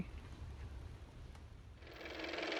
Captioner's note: car motor